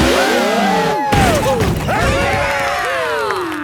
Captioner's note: crowd; applause